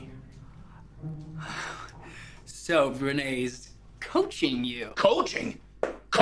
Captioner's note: sighs